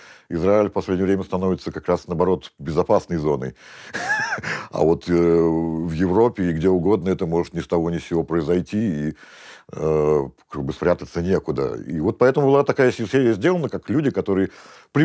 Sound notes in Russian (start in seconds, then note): 3.9 усмехается